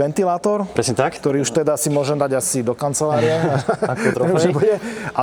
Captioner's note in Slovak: smiech